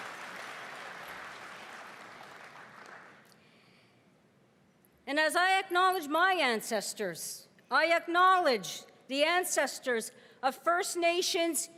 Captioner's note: cheering and applause